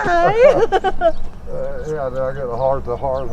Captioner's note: laughing